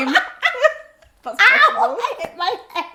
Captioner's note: both laugh